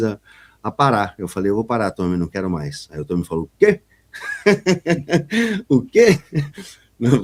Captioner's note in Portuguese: risadas